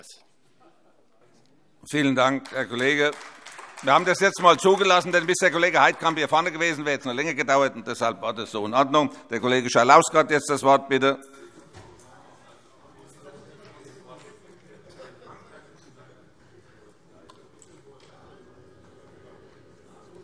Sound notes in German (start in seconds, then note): 2.2 Beifall AfD